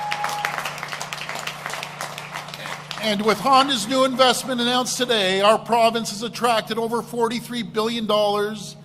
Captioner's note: applause